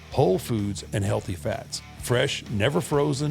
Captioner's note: none